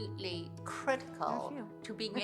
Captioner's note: chuckles